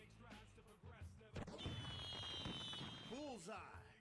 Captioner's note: fireworks popping